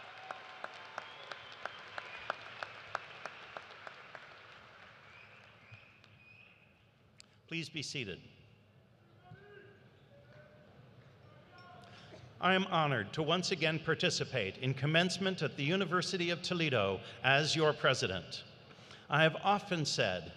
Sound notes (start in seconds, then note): 0.0 cheers and applause